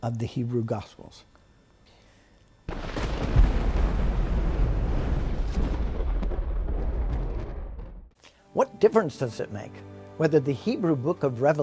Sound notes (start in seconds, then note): 2.7 explosion